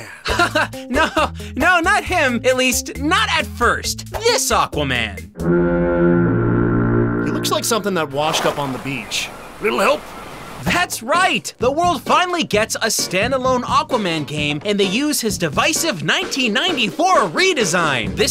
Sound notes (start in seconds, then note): 5.4 foghorn